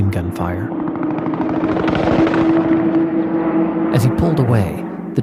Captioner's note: gun shots firing